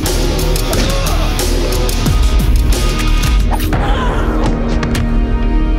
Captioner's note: gun bangs; man groans; thudding; light dramatic music; thudding